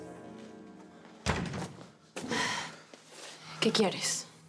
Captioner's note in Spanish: Sonido al abrir la puerta